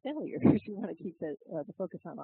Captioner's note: laugh